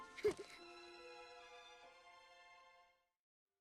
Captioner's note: giggling